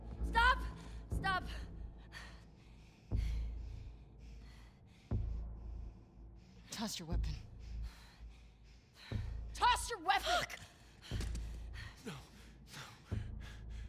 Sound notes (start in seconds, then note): none